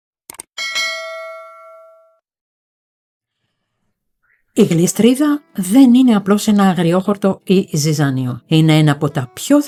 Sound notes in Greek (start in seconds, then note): 0.6 καμπανάκι